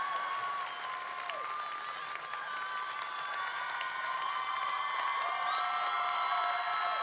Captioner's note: applause